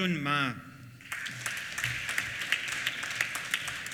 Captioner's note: applause